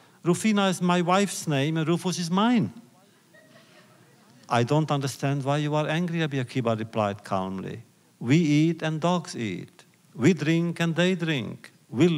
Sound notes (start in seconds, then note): 3.3 laughter